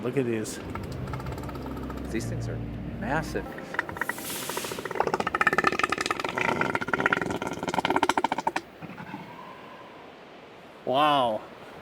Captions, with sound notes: Look at these. These things are massive. [elephant seal growl] Wow.